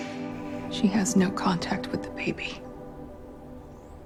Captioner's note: voiceover